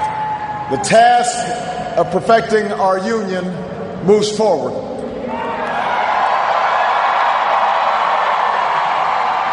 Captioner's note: cheers, applause